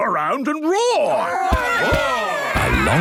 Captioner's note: all roaring